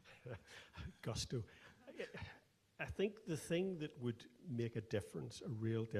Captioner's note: laughs